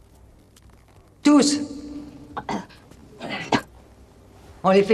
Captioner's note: coughs